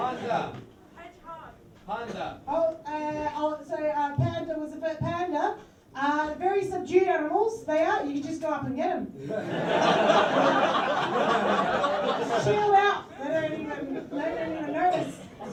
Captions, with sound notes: [people start yelling animals] "Panda" was the first one. Panda? Uh, very subdued animals, they are. You can just go up and get 'em. [laughter] Just chilled out. They don't even... They don't even notice.